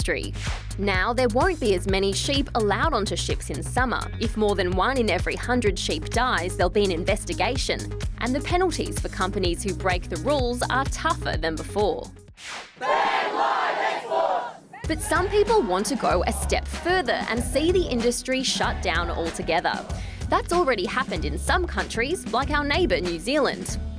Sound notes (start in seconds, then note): 12.7 all chant